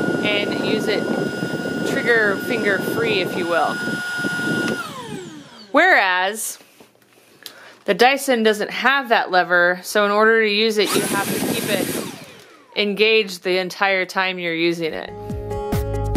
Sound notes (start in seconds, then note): 4.7 vacuum motor powers off; 10.8 vacuum motor powers off; 10.8 vacuum motor powers on